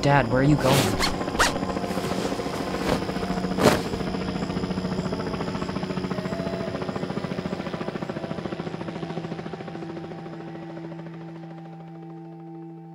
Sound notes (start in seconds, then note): 0.6 zipper fastens; 2.7 helicopter whirring